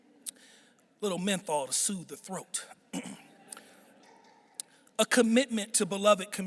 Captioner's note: clears throat